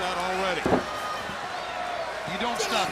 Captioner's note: crowd cheering